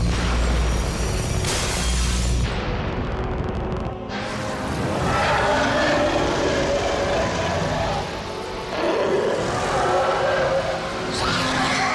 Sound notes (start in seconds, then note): 1.1 glass shatters; 4.7 loud roaring